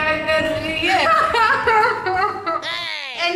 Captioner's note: laughing